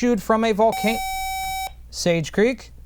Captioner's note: buzzer